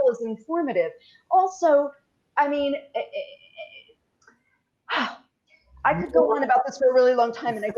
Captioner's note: stammers